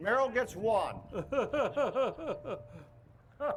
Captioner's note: laughs